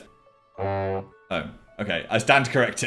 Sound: horn noise

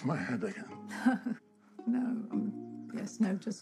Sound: laughs

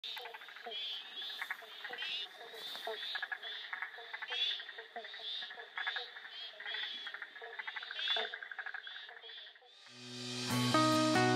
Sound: wetland sounds

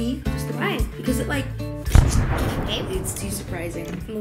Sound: explosion

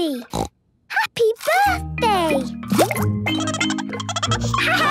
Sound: snorting; Goldie giggling

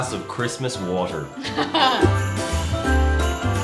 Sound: woman Laughs

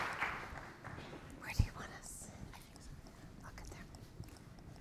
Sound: whispering

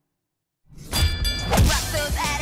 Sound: bell dinging; singing

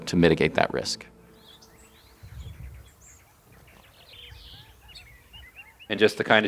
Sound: birds chirping

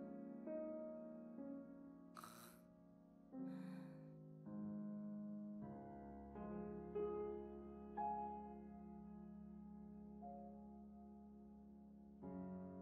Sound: deep gasp

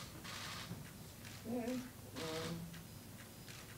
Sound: cameras shuttering

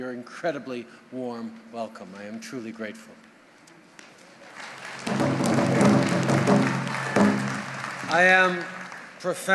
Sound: applause and drumbeats

